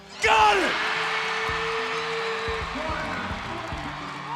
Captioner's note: cheering